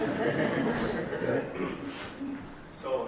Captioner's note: audience laughing